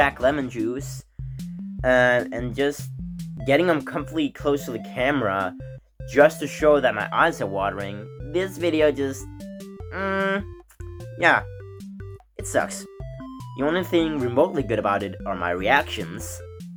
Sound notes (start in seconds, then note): 9.9 mmmm